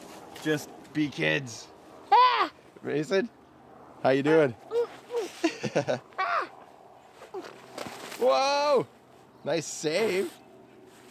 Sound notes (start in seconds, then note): 7.4 grunting; 8.4 laugh